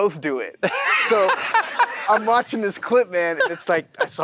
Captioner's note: Matthew & audience laughing